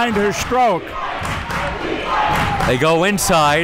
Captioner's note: crowd chanting